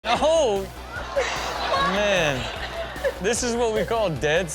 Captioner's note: audience laughing